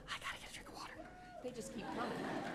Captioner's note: whispers